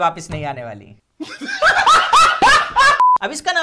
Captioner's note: laughs